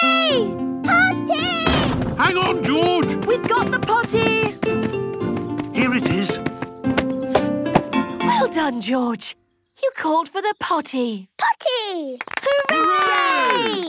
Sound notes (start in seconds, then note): 12.2 cheering, clapping